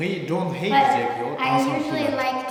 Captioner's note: speaking tibetan